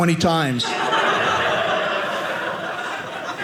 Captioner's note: audience laughing